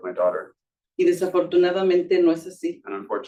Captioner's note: speaking Spanish